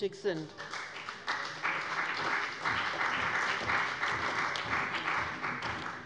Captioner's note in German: Beifall bei dem BÜNDNIS 90/DIE GRÜNEN und der CDU